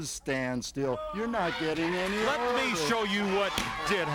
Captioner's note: watch thudding